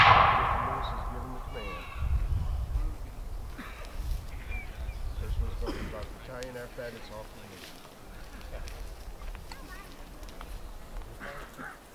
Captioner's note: musket fire